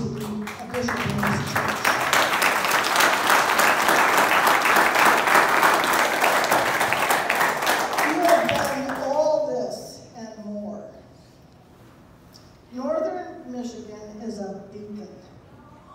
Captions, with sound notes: [applause] You have done all this and more. Northern Michigan is a beacon